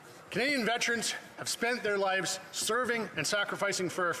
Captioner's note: speaking French